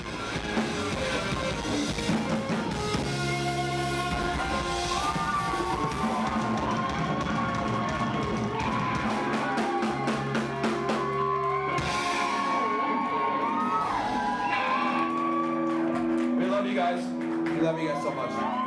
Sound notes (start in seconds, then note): 6.1 crowd applause, song end finale